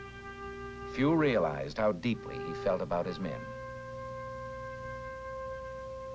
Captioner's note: voiceover